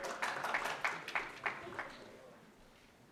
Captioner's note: cheering